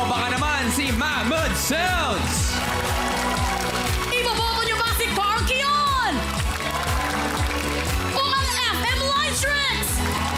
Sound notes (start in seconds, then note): 3.0 audience applauding; 6.6 audience applauding